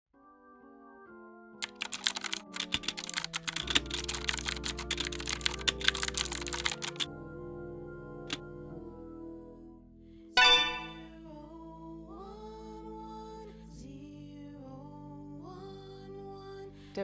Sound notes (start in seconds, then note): 1.6 computer keys clicking; 10.4 computer chimes